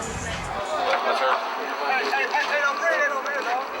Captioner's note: shouting